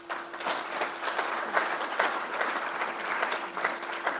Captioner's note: crowd applauds